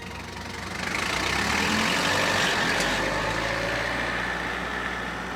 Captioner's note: car engine rumbling